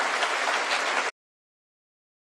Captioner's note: applause